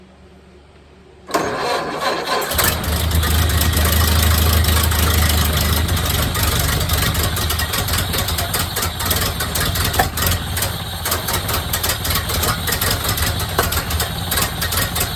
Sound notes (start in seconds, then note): 1.0 engine cranking; 3.2 engine idling